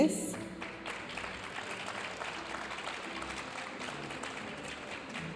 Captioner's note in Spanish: aplausos de la audiencia